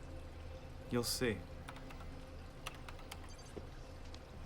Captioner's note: keyboard clacking